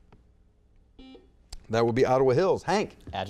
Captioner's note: buzzer beeps